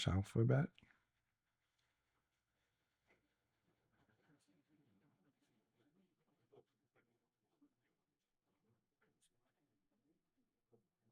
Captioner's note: silence